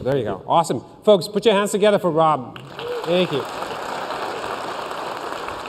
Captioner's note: applause